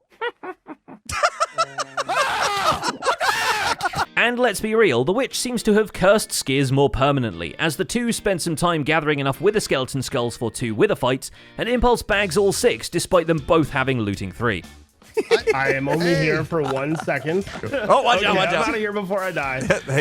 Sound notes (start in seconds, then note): 0.0 laughs; 0.0 witch laughs; 1.1 yells; 15.1 laughs